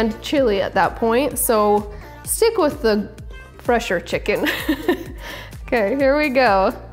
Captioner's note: chuckles